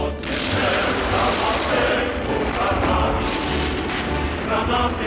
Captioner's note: explosions booming